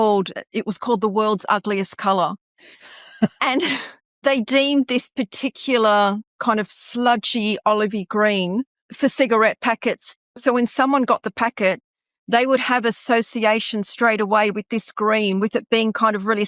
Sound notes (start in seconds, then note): 2.8 laughing